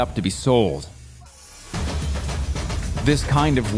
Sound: torch flaring

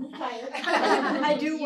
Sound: laughter

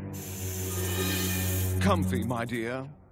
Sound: hissing

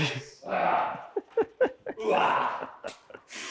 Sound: laughs

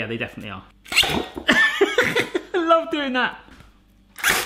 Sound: laughs

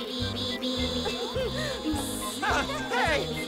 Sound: Ham chuckles, buzzes

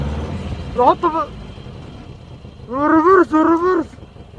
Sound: speaking in a foreign language

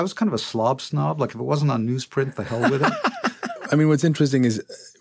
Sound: laughter

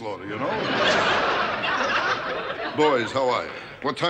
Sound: audience laughter

